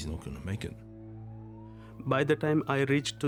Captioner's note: siren wails